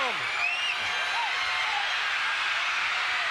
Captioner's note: audience cheering